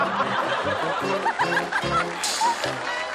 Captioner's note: hahahaha